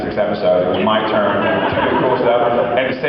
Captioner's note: laughs